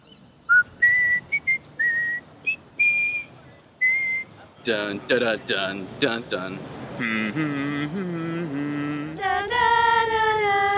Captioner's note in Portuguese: cantarolando " "